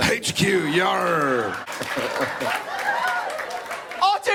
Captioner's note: Jared, raspy British voice; audience laughs, claps; Jensen, high funny voice, thick British accent